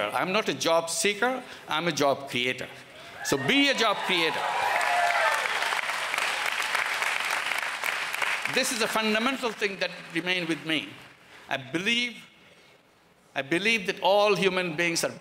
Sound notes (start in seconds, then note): 3.9 applause